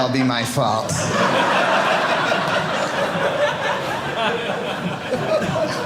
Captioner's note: audience laughing